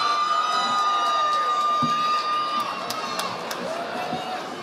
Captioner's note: audience applauding